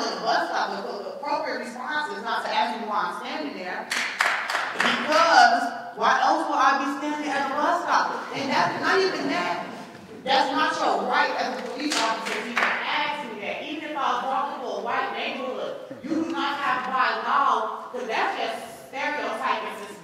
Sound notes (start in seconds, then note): 3.9 clapping